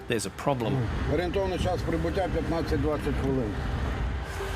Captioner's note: speaks in ukrainian